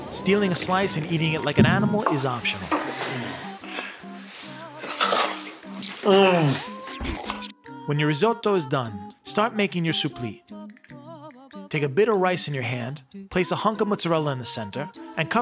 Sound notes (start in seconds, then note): 3.0 moaning; 4.2 slurping; 5.9 groaning in satisfaction